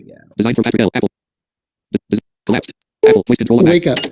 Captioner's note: screen reader narrating extremely rapidly; software beeping